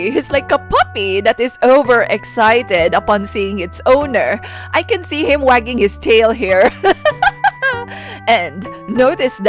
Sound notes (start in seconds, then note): 7.6 laugh